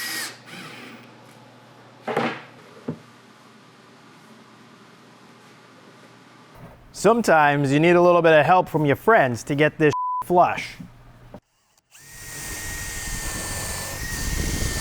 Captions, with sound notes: Sometimes you need a little bit of help from your friends to get this (beeps) flush. (drill whirring)